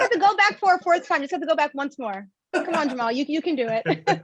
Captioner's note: laughs